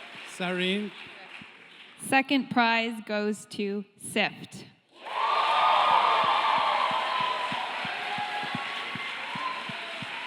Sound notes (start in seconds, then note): 5.0 cheering, applause